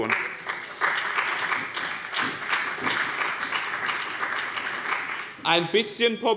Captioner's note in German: Beifall bei dem BÜNDNIS 90/DIE GRÜNEN und der CDU